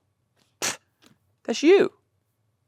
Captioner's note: scoffs